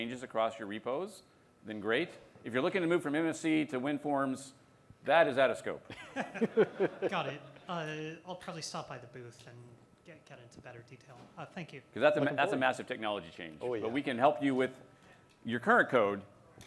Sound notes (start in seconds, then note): 5.9 laughter